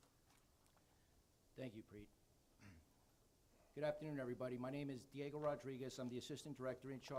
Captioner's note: clears throat